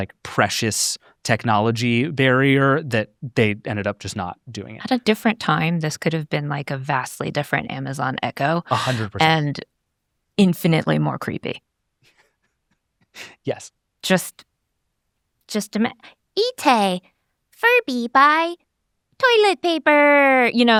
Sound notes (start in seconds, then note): 12.4 laughs